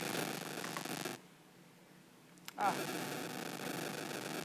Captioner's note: microphone buzzing